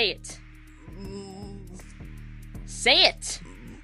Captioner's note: grumbling